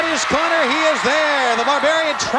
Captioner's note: audience cheering